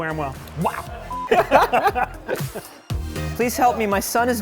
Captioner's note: laughter